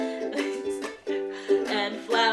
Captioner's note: laughing